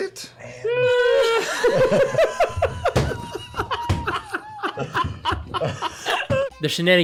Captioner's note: non-committal grunt; laughter